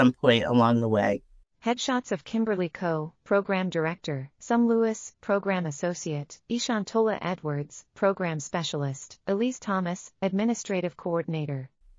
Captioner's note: audio Description being read